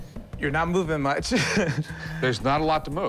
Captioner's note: chuckles